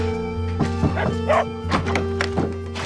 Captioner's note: dogs barking